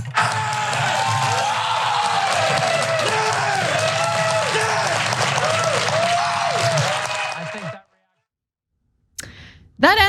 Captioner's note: applause